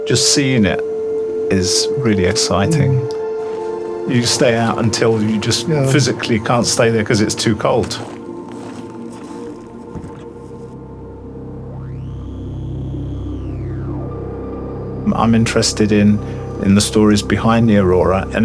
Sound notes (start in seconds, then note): 9.3 feet clacks; 12.0 experimental music